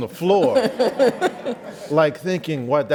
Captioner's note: laughs